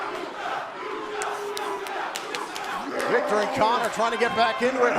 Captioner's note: fans chanting